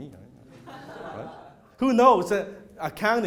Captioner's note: laughter